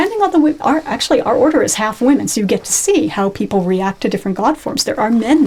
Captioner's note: laughs